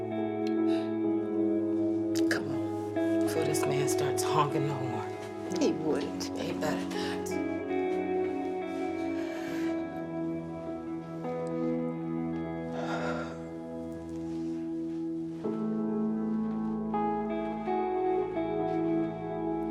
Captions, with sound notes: Come on, before this man starts honking the horn. - He wouldn't. - He better not. (soft music) (Ernestine breathing deeply)